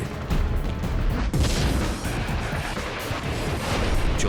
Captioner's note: sounds of battle